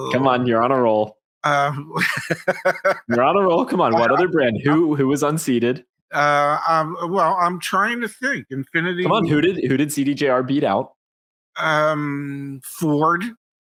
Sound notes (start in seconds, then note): 1.6 laughing